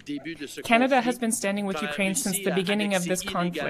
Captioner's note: speaking French